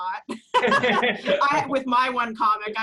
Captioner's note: laughs